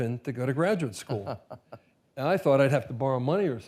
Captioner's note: laughs